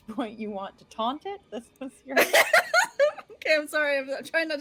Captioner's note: laughing